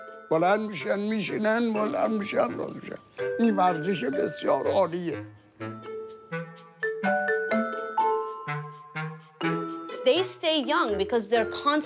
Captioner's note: speaking foreign language